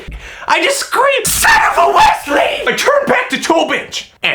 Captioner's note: screams